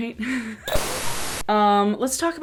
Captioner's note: giggles; TV static